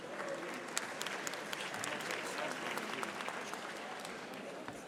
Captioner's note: audience applauding